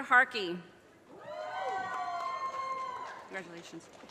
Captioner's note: audience cheers and applause